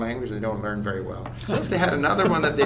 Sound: laughs

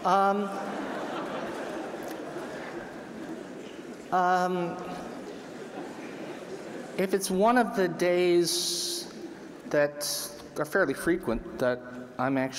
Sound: laughter

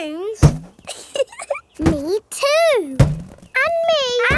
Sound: chuckles

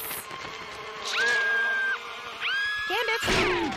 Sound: screams in Lord of the Flies

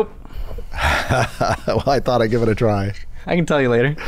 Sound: laughter

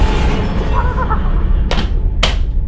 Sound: creepy laughter

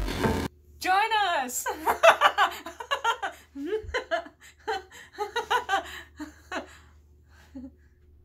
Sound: nervous laughter

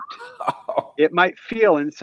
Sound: laughs

